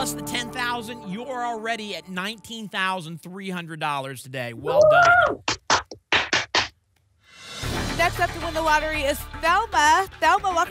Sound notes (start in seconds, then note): 5.1 applause and cheering